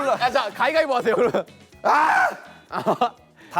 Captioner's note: argh!